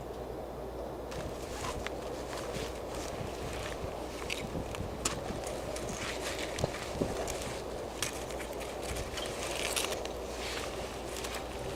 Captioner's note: background - strong winds